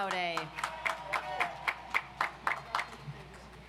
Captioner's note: audience applauds